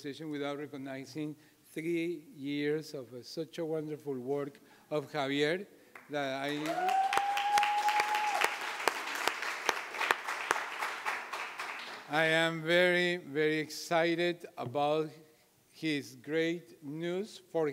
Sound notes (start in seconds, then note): 6.3 applauding; 6.5 audience cheering